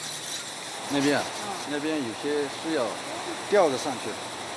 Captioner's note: Chinese spoken audio